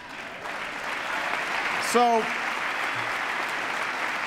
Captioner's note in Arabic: تصفيق